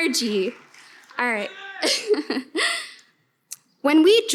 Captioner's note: laughs